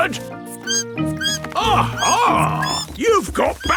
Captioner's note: bat squeaking